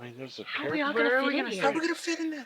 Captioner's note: chatter